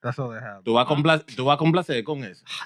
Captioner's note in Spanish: Hablando en idioma extranjero